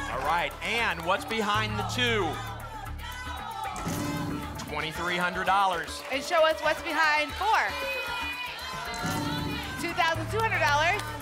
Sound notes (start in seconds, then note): 8.0 cheering